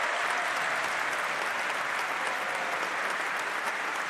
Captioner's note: applause